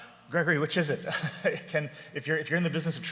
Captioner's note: laughs